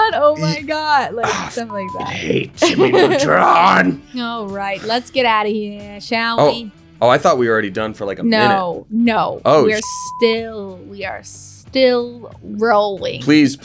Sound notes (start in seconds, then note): 1.1 laughing; 1.5 beep; 9.6 beep